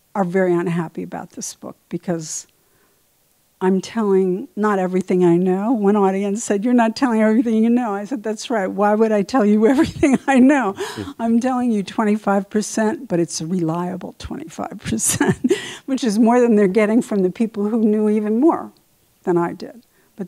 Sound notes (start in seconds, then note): 15.0 laughs